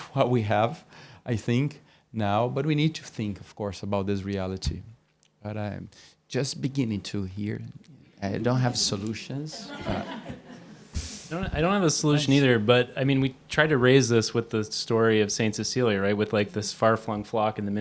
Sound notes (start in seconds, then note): 9.5 laughter